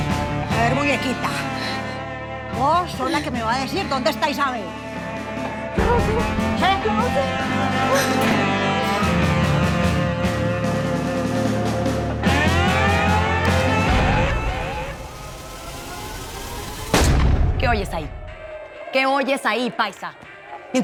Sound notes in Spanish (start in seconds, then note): 16.8 Disparo